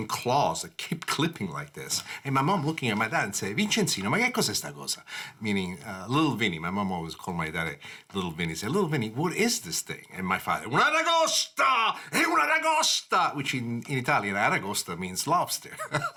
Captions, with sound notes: that keep clipping like this. And my mom looking at my dad and saying (speaking Italian) meaning Little Vinnie, my mom always called my dad little Vinnie, said Little Vinnie what is this thing? And my father (speaking Italian) which in Italian aragosta means lobster.